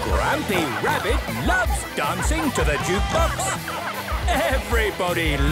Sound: shouting

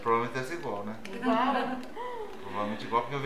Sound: laughter

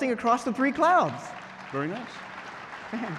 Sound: crowd applause

